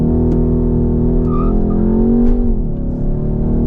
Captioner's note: wheelspin